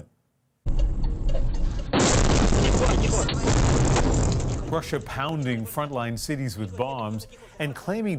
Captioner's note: bombing